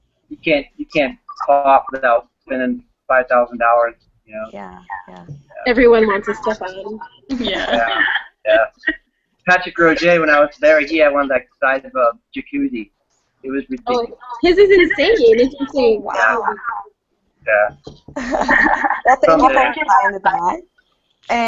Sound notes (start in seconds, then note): 6.8 group agreeing; 16.0 group laughing